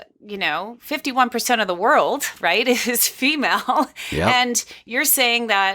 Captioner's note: laughs